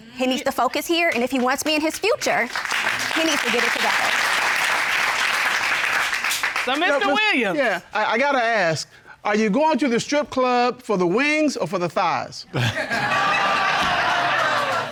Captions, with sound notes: He needs to focus here. And if he wants me in his future, he needs to get it together. [applause] -So, Mr. Williams-- -Yeah. I gotta ask. Are you going to the strip club for the wings or for the thighs? [laughter]